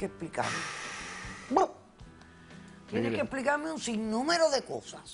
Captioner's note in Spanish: El exhala profundo